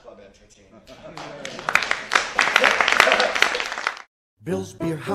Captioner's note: audience applauds